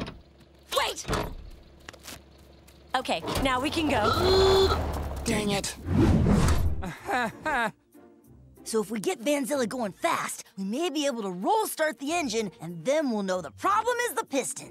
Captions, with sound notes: Wait! Okay, now we can go. [honking] Dang it. [chuckles] So if we get Vanzilla going fast, we may be able to roll start the engine and then we'll know the problem is the pistons.